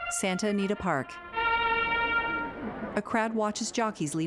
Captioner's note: fanfare music; crowd din; people chattering indistinctly